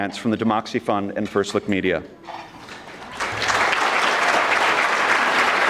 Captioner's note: audience clapping